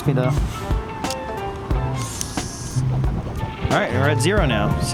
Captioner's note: light jazz music; camera shutter clicking